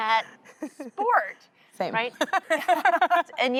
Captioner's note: laughter